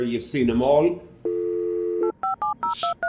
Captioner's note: dial tone